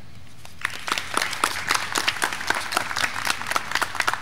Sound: graduands clapping

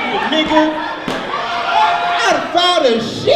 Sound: audience laughs

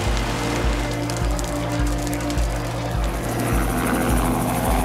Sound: fire crackling; helicopter

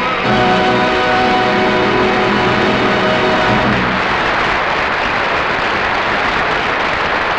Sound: audience applauding

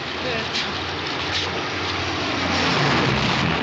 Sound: aircraft flies over

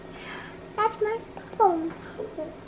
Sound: sighs

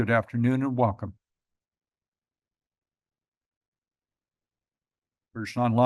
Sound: pause

